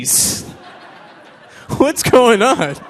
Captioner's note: audience laughing